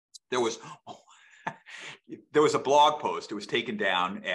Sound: laughs

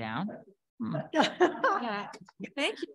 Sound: audience laughing

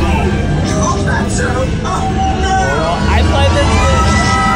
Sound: people shouting

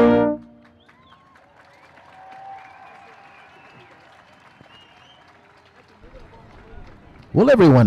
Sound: applause

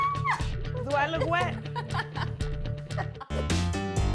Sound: screams loudly; laughs

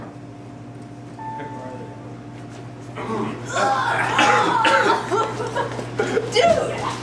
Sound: coughing and gagging

